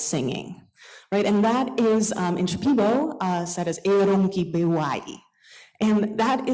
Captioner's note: non-english